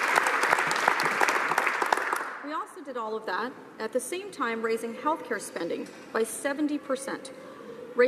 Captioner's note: some applause